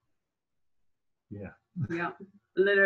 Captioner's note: laughs